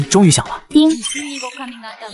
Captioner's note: ding!